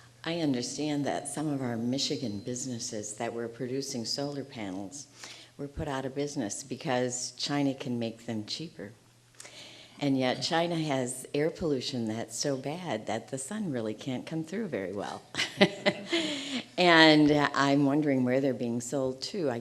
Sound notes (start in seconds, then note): 15.4 audience laughing